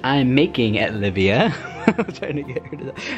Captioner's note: laughs